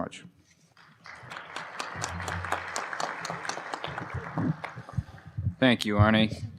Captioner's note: applause